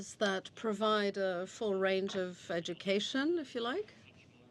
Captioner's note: speaking French